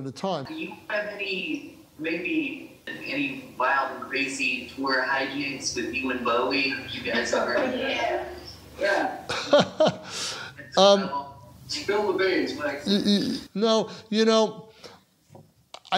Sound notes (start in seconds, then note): 8.9 laughs